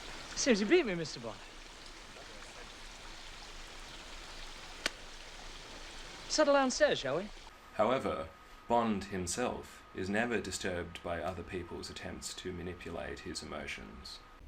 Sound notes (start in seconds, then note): 0.0 heavy breathing, water flowing; 0.0 water flowing, birds chirping in distance; 4.8 clap